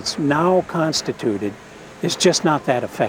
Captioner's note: speaking Spanish